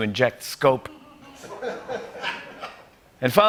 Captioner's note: laughter